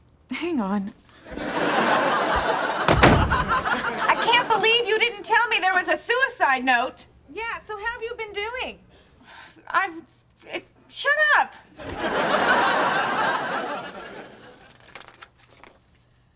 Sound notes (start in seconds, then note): 1.2 background laughter; 2.3 door shutting; 11.7 background laughter